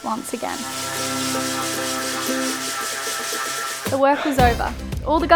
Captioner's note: machine buzzing